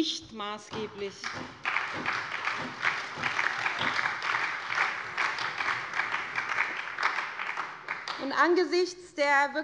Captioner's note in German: Beifall bei der SPD